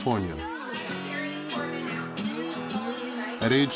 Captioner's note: chattering